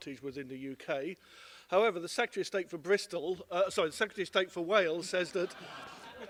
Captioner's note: laughter